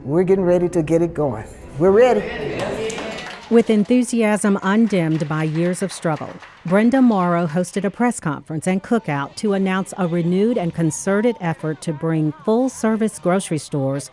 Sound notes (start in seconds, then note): 3.1 group cheers